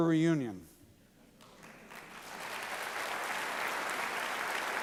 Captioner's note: applause